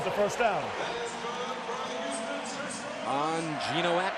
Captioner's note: pa announcement